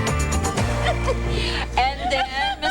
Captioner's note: laughing